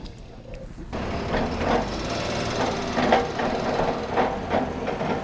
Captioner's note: engine revving